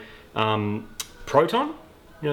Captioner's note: smacks lips